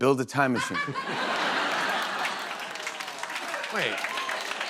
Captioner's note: cheers and applause